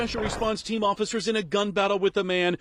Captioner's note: gunfire